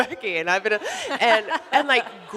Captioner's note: all laughing